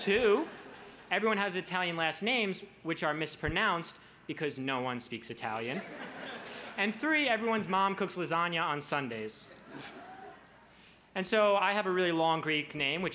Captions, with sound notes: (crowd laughs) Two, everyone has Italian last names which are mispronounced because no one speaks Italian. (crowd laughs) And three, everyone's mom cooks lasagna on Sundays. And so I have a really long Greek name